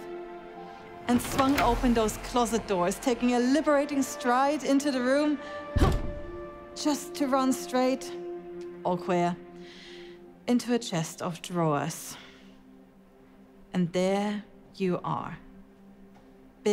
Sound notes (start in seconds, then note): 1.0 doors swing open; 5.8 thud and grunt